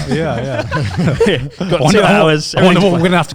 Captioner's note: laughs